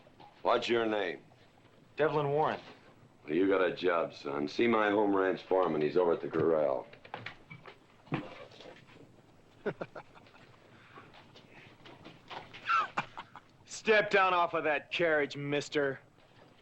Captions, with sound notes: - What's your name? - Devlin Warren. Well, you got a job, son. See my home ranch foreman. He's over at the corral. (Bunny laughs) Step down off of that carriage, mister.